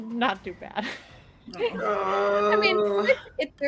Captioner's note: chuckles